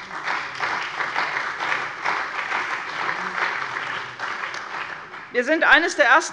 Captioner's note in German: Beifall bei der CDU und dem BÜNDNIS 90/DIE GRÜNEN